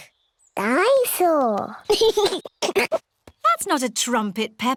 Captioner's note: giggles